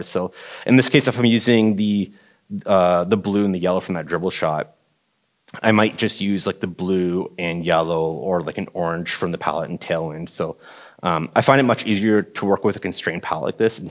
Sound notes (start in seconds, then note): none